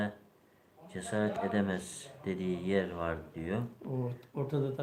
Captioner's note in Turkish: homurdanır